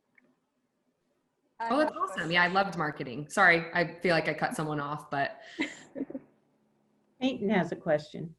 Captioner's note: laughter